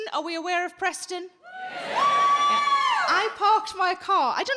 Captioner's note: audience cheering